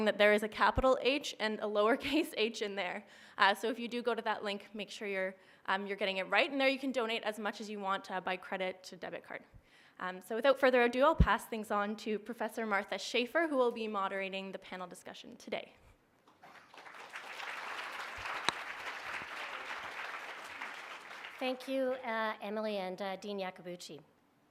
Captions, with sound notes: that there is a capital H and a lower case h in there, so if you go to that link make sure you're getting it right, and there you can donate as much as you want by credit to debit card. So without further adieu I'll pass things on to Professor Martha Schafer, who will be moderating the panel discussion today. (applause) Thank you Emily and Dean Iacobucci.